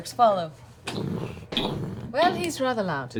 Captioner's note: stomping